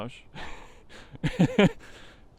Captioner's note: chuckles